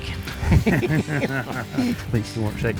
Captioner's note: both laughing